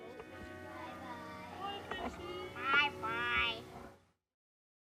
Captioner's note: kids talking to each other